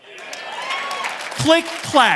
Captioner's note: audience cheering and applauding